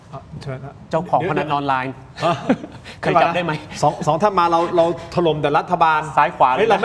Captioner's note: laughter